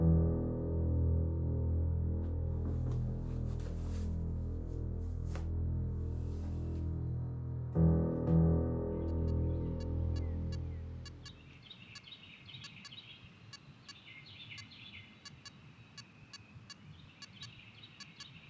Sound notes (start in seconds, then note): 0.2 ominous piano music; 13.2 video game beeps